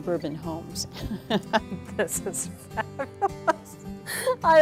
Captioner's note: laughter